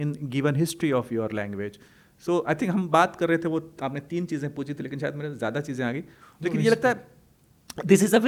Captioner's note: hindi